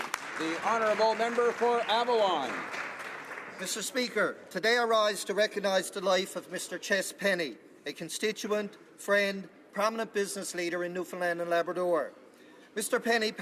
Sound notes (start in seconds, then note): 3.2 applause